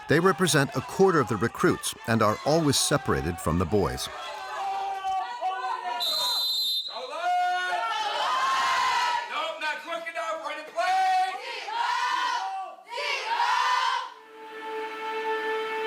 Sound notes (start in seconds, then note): 6.0 whistle blows; 11.8 candidates yelling